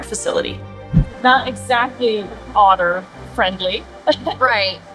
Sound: laughs

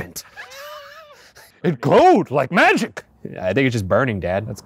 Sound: laughing

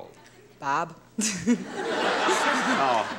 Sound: laughing

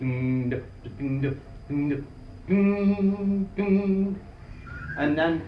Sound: man making guitar noises

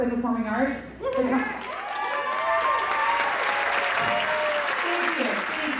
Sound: audience cheers and applauds

